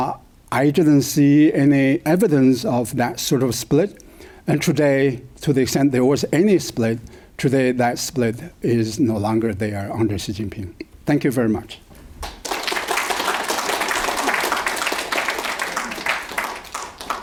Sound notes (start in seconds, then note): 12.2 crowd applauding